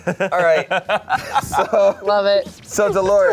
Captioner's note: laughs